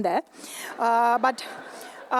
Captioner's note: laughter